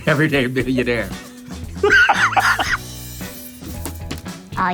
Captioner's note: laughs